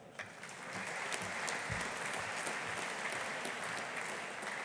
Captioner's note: audience applauding